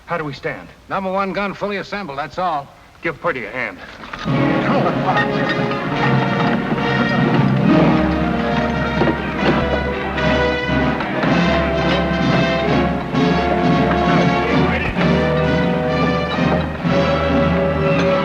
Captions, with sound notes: How do we stand? - Number one gun fully assembled. That’s all. - Give Purdy a hand. (upbeat instrumental music) (men chattering)